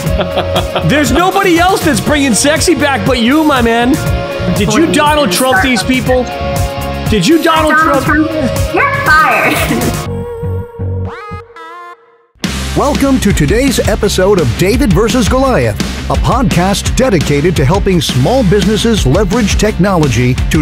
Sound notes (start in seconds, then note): 0.0 laughing; 9.7 laughing; 12.6 upbeat music